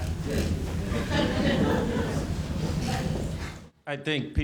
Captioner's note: laughter